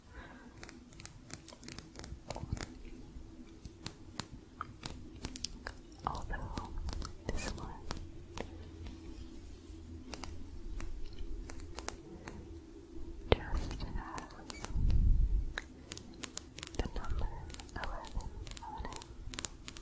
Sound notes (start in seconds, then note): 0.1 quick tapping; 8.3 sporatic tapping